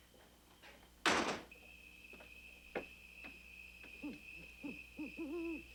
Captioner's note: door clicking; owl hooting